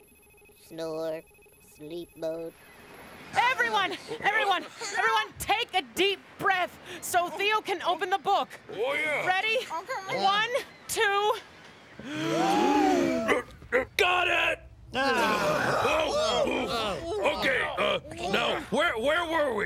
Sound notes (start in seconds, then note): 12.0 all inhale deeply; 14.9 all exhale loudly